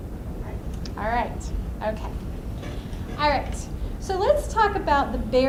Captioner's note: voiceover